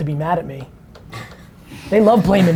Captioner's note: group laughter